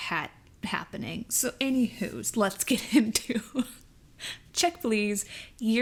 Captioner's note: laughs